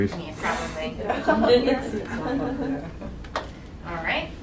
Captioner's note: laughing